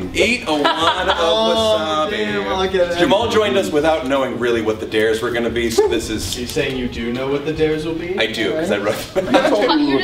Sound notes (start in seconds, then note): 9.2 chuckles